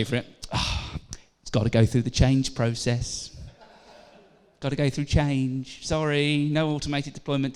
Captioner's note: laughter